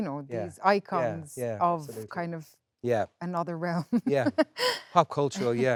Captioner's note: laughs